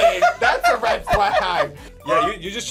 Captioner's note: laughs